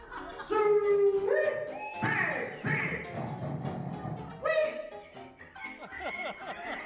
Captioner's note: crowd laughs; oinks and squeals; crowd laughs